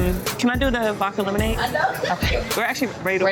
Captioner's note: spies laughing